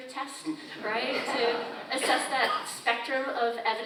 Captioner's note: audience laughs